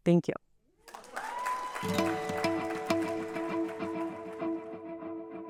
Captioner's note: applause and cheering; upbeat music playing